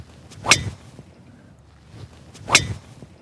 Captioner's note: whacking